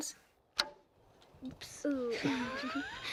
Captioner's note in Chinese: 笑聲